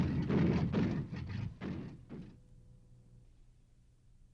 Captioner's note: loud banging